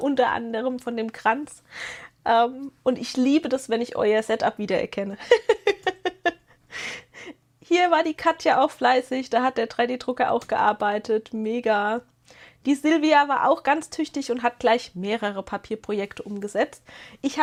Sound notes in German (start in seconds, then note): 5.2 gelächter